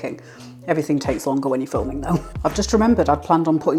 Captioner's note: laugh